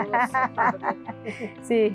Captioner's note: laughing in the background